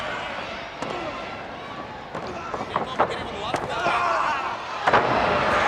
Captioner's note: body thudding; footsteps plodding; body thudding; wrestlers grunting